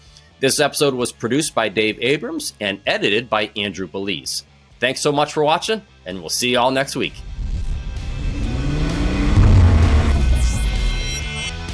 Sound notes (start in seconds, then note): 7.1 whoosh; 7.2 engine revving